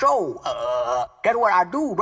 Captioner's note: spewing